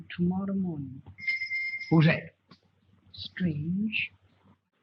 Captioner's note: bell ringing